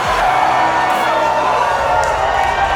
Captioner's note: loud cheering